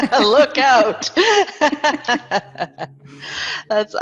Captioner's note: both laugh